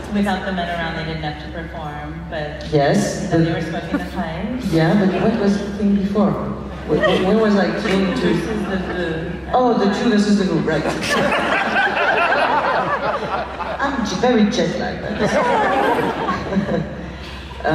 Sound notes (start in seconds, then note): 10.7 laughs